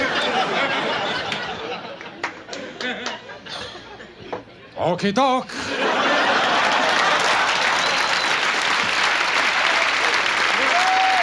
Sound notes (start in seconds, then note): 0.0 audience chuckles; 5.7 audience laughs and applauds